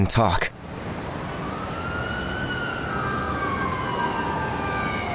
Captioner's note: siren blaring